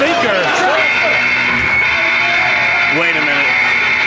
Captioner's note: alarm buzzing